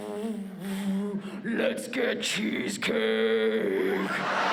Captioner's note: deep voice